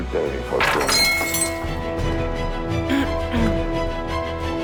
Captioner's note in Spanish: Sonido de las piedras al caer